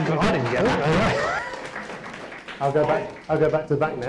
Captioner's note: audience applauds